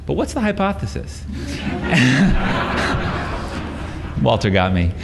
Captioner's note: laughter